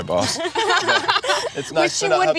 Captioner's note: laughter